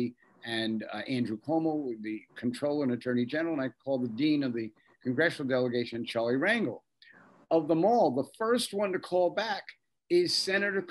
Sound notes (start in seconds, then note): none